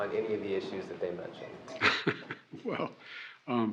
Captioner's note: laughs